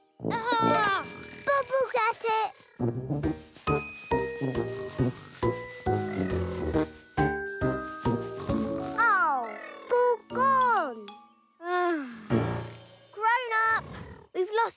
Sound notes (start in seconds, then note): 2.8 lighthearted, bouncy music; 11.6 sigh